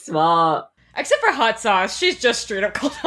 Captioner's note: laughing